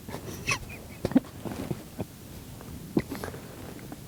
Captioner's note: laughing